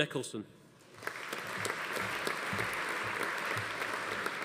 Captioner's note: audience applauding